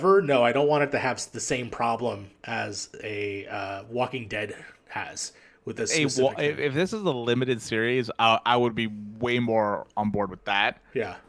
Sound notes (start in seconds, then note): none